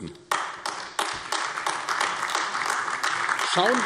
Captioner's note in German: Beifall AfD